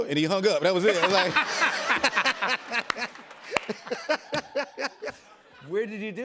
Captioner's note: laughter